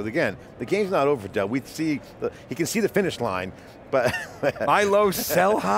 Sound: laughing

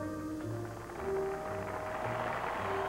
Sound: applause

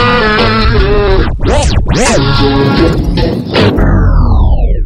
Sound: record scratching

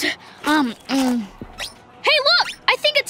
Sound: chewing

